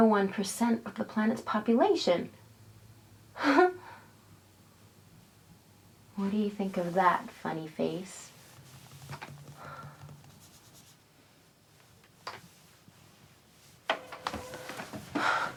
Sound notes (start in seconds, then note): 11.4 click